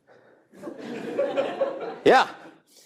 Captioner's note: audience laughing